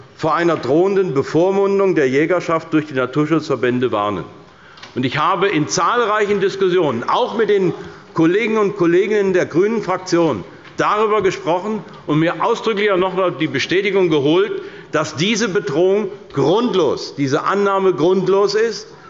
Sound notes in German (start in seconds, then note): none